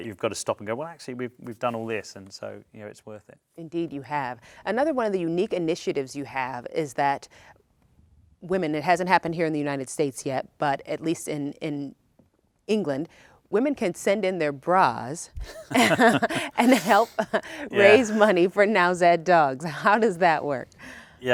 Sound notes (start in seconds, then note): 15.4 both laugh